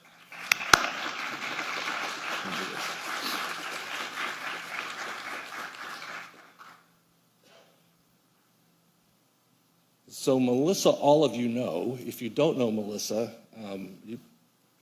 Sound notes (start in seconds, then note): 1.9 applause